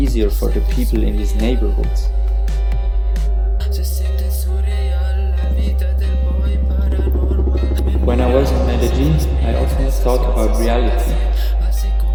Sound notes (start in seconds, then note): 7.8 helicopter sounds